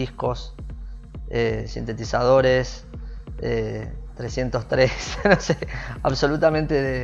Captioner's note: laughs